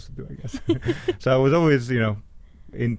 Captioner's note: both laughing